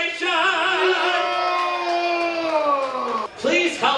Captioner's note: applause and cheering